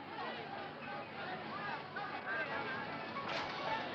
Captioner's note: street noises